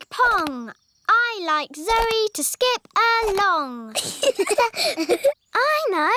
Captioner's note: both laugh